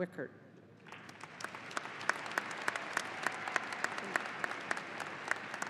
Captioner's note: audience applauding